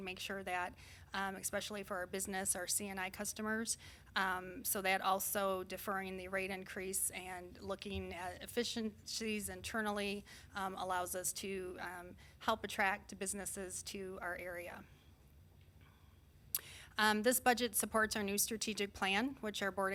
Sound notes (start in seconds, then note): none